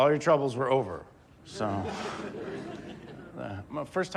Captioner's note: audience laughs